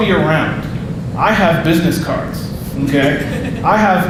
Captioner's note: audience laughing